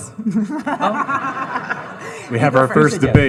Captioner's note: audience laughing